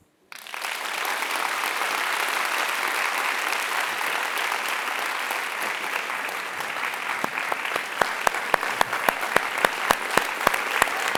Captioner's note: applause